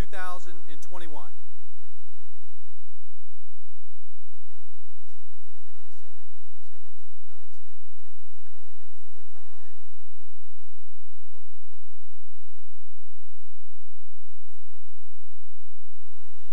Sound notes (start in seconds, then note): 1.5 chatter